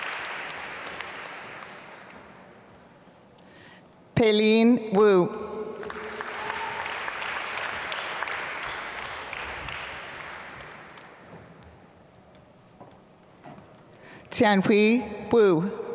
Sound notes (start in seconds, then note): 5.8 applause